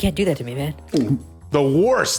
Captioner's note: gulp